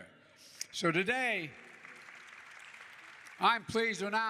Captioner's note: applause